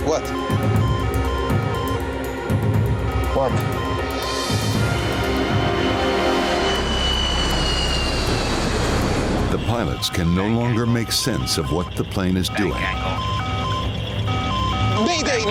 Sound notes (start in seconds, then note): 0.0 alarm beeping; 1.3 alarm beeping; 5.7 sinister music; 7.0 airplane engine roaring; 12.8 recorded Voice; 13.9 alarm beeping